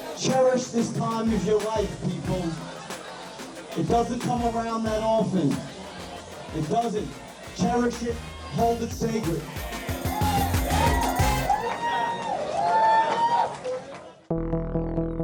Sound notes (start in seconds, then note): 10.2 crowd cheering; 14.0 intriguing music